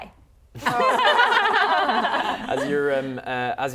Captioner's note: laughing